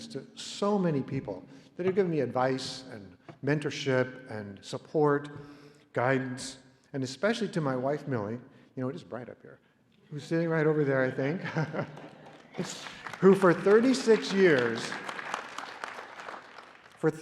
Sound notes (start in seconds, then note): 10.6 laughter; 11.5 applause